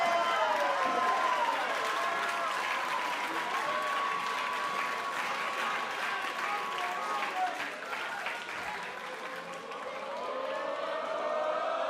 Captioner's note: cheers and applause